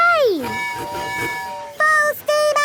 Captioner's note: tooting